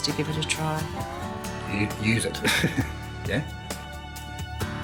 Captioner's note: chuckles